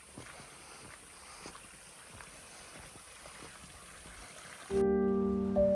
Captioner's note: soothing murmur of water